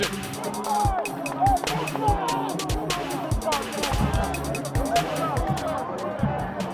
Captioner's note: sideline chatter